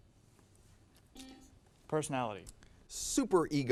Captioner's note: buzzer sounds